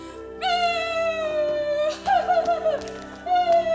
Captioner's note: cries